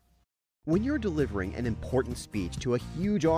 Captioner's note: voiceover